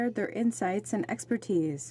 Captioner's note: speaking in french